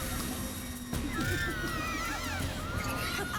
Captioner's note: scream